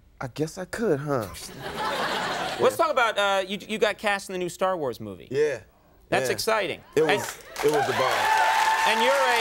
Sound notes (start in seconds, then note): 1.5 audience laughing; 7.2 audience clapping